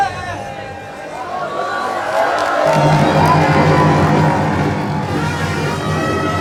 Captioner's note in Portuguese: gritos